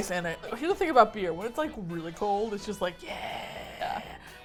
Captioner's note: excitedly